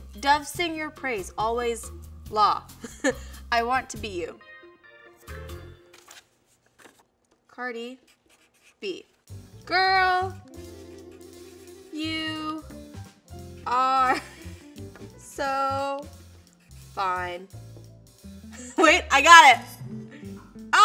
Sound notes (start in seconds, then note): 2.6 laughs